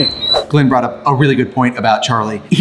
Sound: screen swooshes

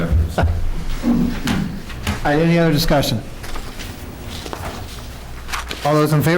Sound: laughter

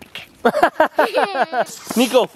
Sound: laughing

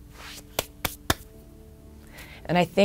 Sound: tapping hands

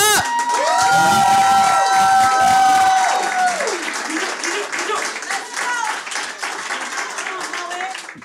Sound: audience cheers and applauds

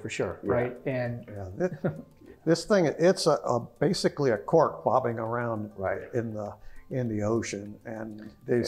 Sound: laugh

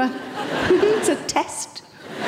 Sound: laughs

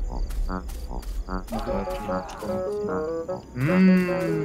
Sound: wild scream in the forest ahead

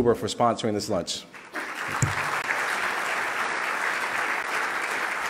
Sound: loud clapping

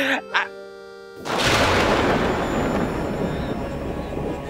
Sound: thunder; tense music

